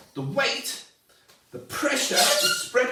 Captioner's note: balloon squeaks